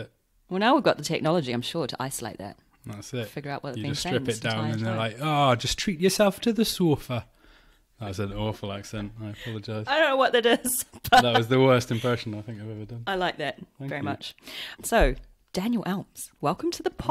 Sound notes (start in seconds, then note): 5.3 geordie accent; 10.9 laughs